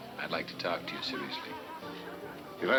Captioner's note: none